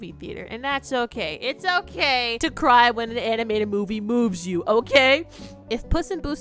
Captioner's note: sniffs